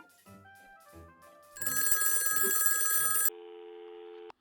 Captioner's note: phone rings